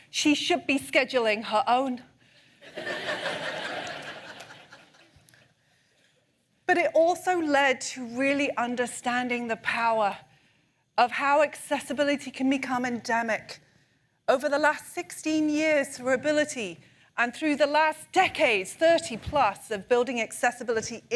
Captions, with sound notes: She should be scheduling her own. [ laughter ] But it also led to really understanding the power of how accessibility can become endemic. Over the last 16 years through Ability, and through the last decades, 30 plus of building accessibility